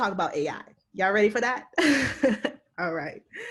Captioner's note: laughs